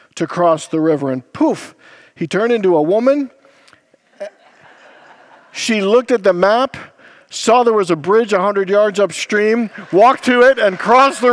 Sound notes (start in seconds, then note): 4.0 congregants laugh